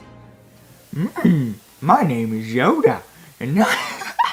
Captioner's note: Yoda noises